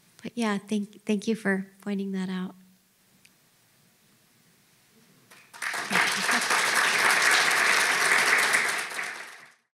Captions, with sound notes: But yeah, thank you for pointing that out. (audience claps)